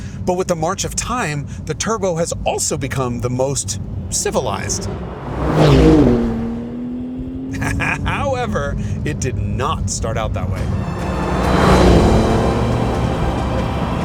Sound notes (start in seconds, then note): 5.9 engine revs; 7.5 laughs; 10.2 engine revving